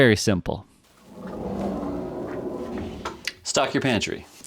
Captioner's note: door rolls